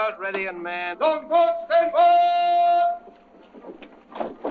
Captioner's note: yelling